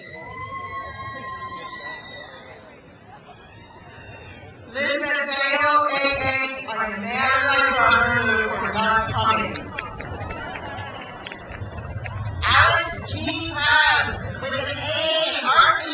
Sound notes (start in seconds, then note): 0.0 crowd cheers; 9.9 crowd laughs